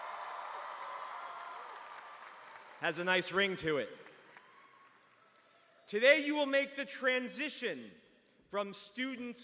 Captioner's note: cheers and applause